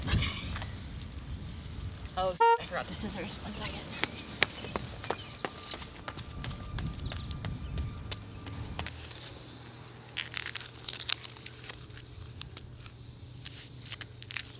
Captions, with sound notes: Okay, oh I brought the scissors, one second. (feet pattering)